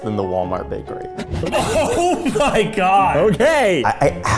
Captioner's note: group laughing